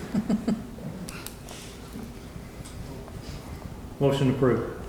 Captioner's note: person laughs